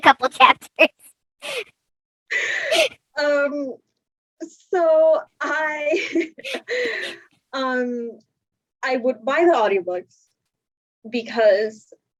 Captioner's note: laughs; laughs